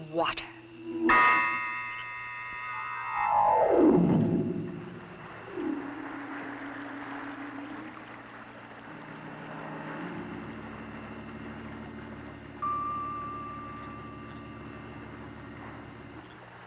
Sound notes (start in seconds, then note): 0.2 organ music; 4.6 water flowing